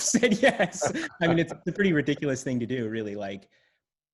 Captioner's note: laughs